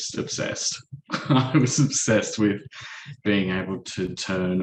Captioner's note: chuckles